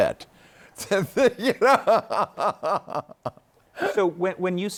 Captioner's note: laughs